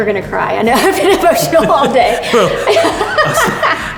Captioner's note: laughs hysterically